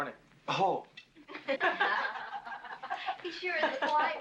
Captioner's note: women laughing